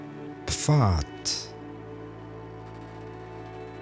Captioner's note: german